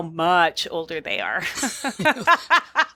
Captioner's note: laughs